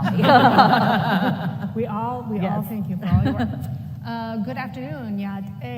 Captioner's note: laughter